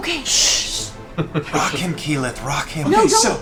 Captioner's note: whispers